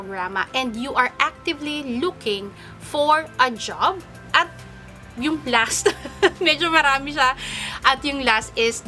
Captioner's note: laughs